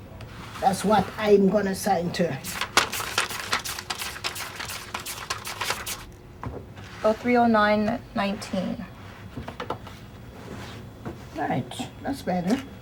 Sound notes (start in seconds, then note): 2.4 flipping through pages